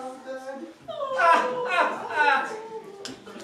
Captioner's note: laughing